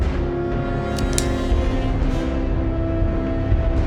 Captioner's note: knife clicks; dramatic tense music